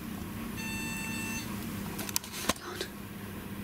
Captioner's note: rem pod beeping